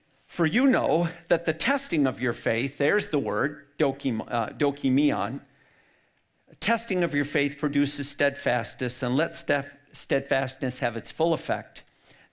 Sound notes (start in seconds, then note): 3.5 speaks in foreign language